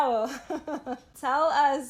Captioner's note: laughter